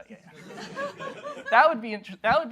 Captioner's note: laughter